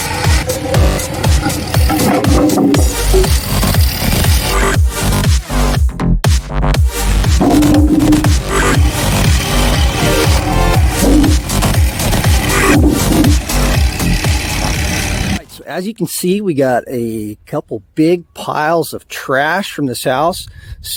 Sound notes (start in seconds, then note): 4.7 upbeat music; 7.4 wood falls